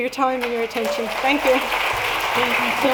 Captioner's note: applause